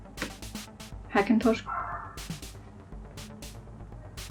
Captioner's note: 🐩 dog barking